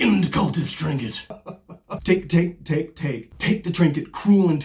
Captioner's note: maniacal laughter